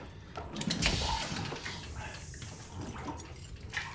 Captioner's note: air hissing